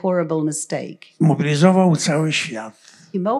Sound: foreign language

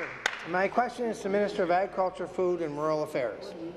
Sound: applause

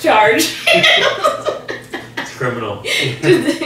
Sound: high pitched laugh

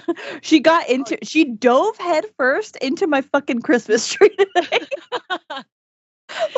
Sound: laughs

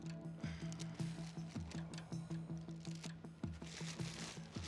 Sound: plastic rustling

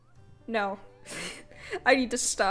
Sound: laughs

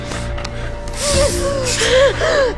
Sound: hiss

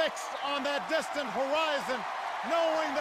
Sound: cheers and applause grow

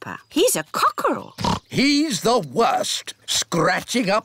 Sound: oinks

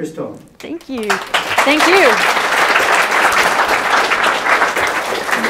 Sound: audience claps

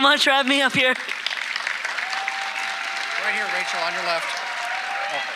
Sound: audience applauding

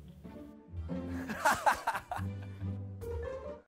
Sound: chuckles

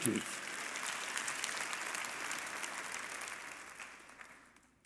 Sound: congregation applauding

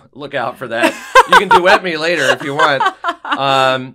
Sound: laugh

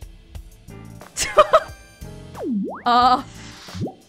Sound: chuckles

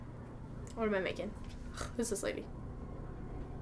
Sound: scoffs

